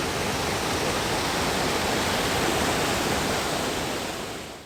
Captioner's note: waterfall